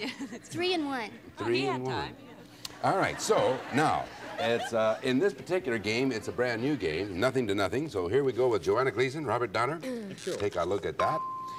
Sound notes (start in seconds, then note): 2.9 laughter